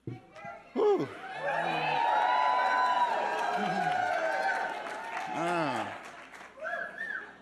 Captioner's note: audience cheering